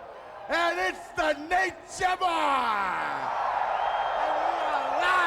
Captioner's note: crowd cheers